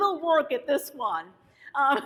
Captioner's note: laughs